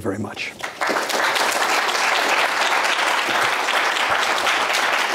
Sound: audience applauding

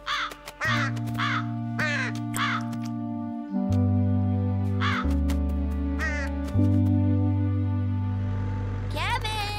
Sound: crows caw

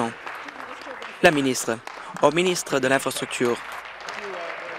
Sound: applause

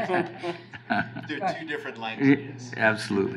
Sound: laughing

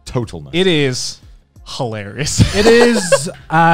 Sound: laughing

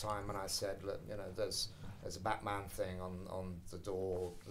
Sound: none

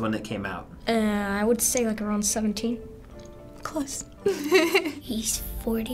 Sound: giggles

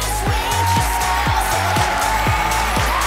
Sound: applause and cheers

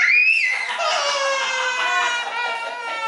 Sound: crying

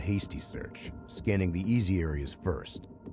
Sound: voiceover

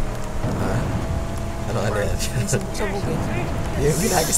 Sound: the other explosions

